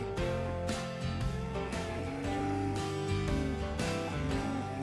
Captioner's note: cows mooing